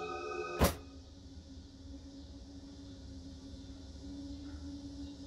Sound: cicadas

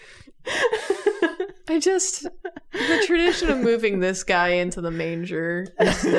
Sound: laughter

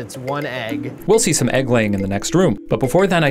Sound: voiceover

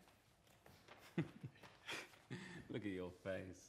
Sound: zhou laughs

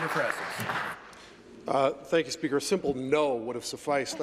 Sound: applause

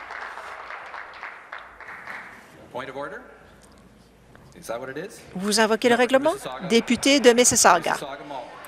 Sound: applause

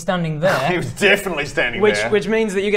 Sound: scoff

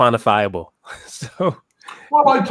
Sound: laugh

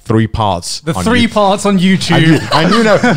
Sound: laughing loudly

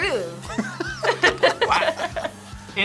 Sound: both laugh

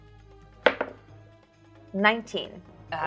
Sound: dice thudding

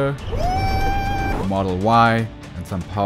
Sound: screaming

